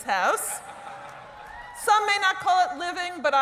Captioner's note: laughter